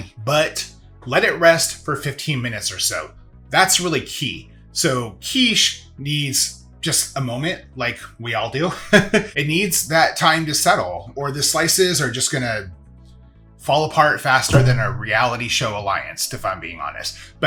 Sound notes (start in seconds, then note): 9.1 laughs